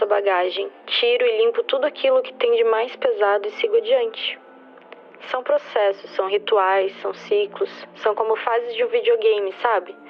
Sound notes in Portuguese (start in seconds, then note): none